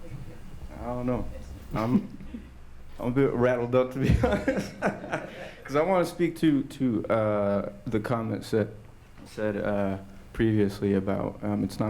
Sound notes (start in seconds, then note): 4.1 laughs